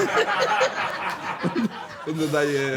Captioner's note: laughter